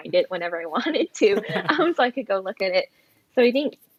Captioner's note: laughs